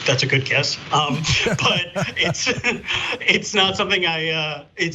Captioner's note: laugh